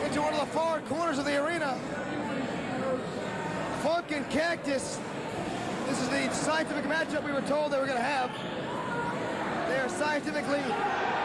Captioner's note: cheers and applause